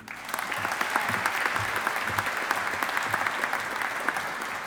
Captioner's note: audience applauding